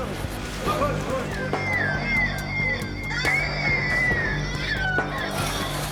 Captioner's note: loud noises from megaphone